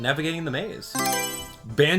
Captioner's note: Mario Selection Sound